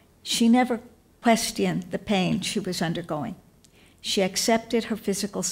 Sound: none

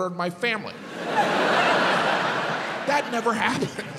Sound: audience laughs

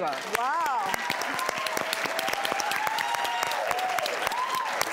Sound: audience applauds

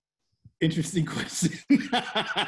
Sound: laughs

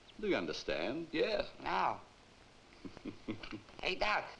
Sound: Zabor chuckles

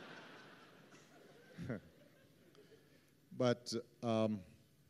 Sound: laughter

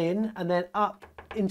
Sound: tapping

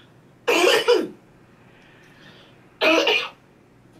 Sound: coughs

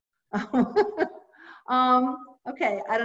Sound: laughs

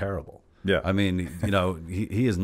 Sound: laughs

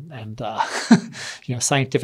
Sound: laughs

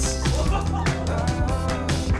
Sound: man laughing

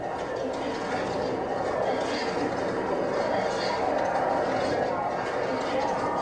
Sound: fading sirens; sounds of struggle

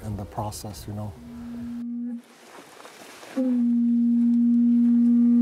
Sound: sound of a horn from the shell

